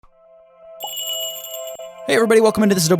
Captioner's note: magical jingle